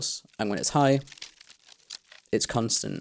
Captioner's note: busy and dense crackles